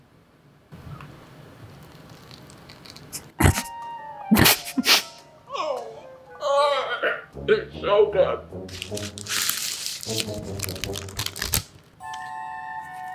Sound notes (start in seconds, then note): 1.6 crunching; 3.2 laughing; 5.7 groaning; 8.7 wrapper crinkling